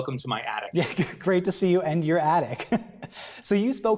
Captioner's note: laughs